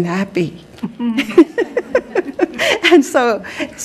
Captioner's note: laughing